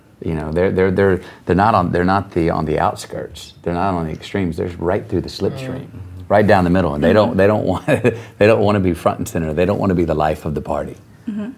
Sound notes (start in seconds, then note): 8.0 laughs